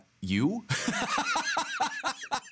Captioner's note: laughing